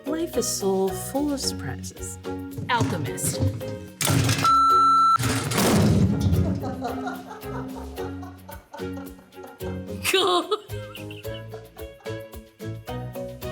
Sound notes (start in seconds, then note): 4.4 beep; 5.2 whiteboard crashes; 6.8 producer laughs; 10.0 laughs